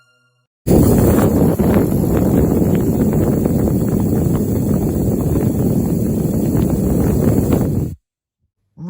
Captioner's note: rocket blast